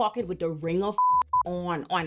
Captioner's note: beep